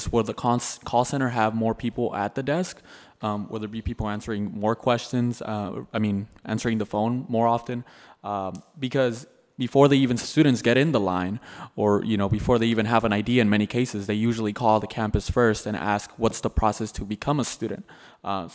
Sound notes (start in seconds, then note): none